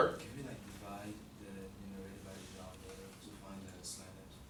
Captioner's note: student mumbling